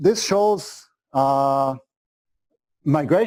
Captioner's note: pause